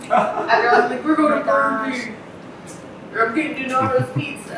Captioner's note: background chatter